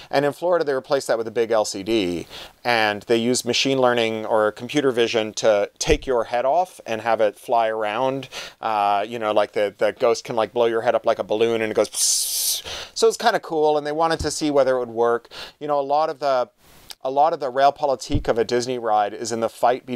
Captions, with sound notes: And in Florida, they replaced that with a big LCD. And they use machine learning or computer vision to take your head off and have it fly around, like the ghost can blow your head up like a balloon and it goes (imitates balloon deflating). So it's kind of cool, and they wanted to see whether it would work. A lot of the rail politic of a Disney ride is in the fight